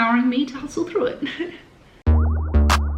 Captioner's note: speaker chuckling; upbeat music